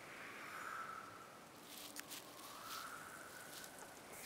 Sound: snow crushing; whistling wind

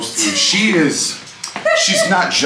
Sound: person laughing

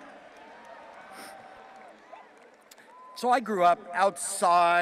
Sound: audience applauding and cheering

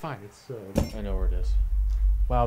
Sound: corkscrew lands on table

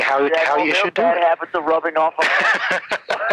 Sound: laughing

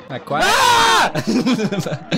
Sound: both screaming; laughs

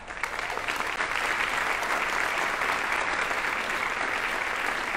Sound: audience applauding

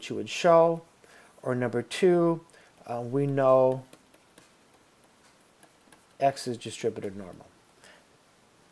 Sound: clicking

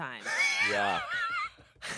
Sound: laughs

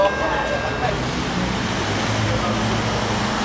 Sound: engines whirr

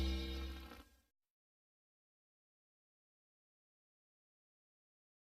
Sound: silence

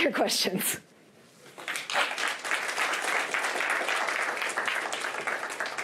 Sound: applause

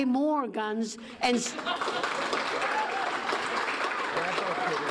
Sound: audience applauding

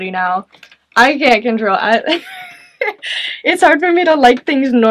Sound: chuckles

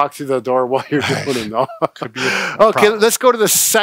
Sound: laughing

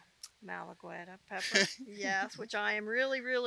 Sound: laughs

